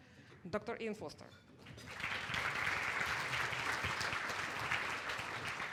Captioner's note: applause